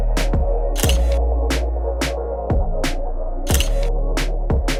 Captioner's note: funky music; camera clicks